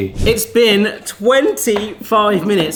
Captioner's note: screen whooshing